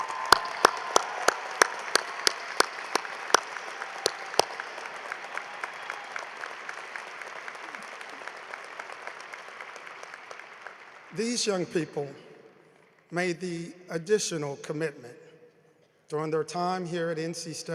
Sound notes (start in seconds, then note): 2.5 cheering and applause